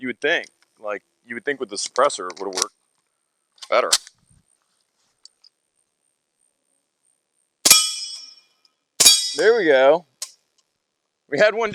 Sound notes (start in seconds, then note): 7.6 gunshots